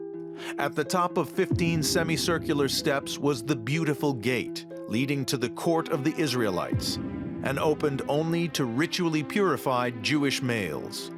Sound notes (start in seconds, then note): none